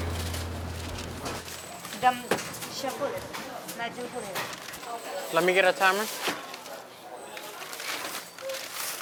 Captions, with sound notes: [CHATTER] “Let me get a timer.